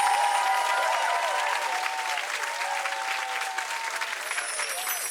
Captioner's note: bells chiming; cheering and clapping; audience cheering and clapping; bells chiming